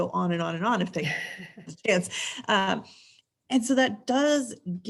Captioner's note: laughs